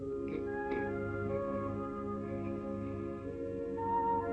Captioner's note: snoring